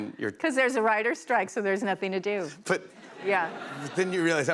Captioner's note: laughter